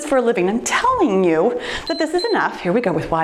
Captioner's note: timer beeps